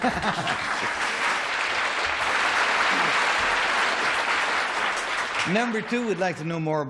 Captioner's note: applause